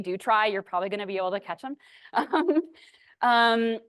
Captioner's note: laughs